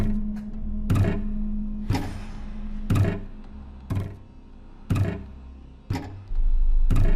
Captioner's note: object thudding rhythmically; soft tense music